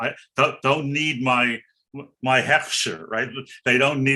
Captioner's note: speaking in foreign language